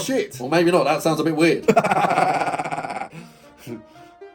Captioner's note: laughs